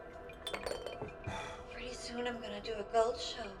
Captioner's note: bottle rattles